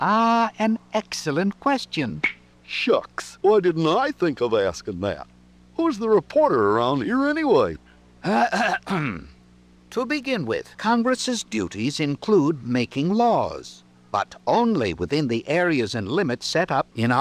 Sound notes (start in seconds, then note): 8.2 coughing